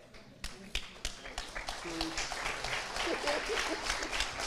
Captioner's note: crowd applauds